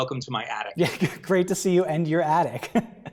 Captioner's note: laughs